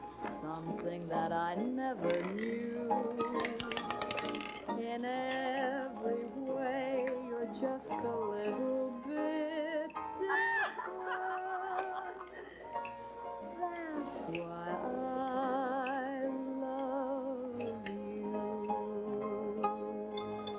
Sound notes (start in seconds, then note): 3.1 roulette ball rattling; 10.2 laughter in background